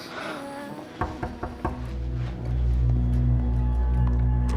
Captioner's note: hand knocking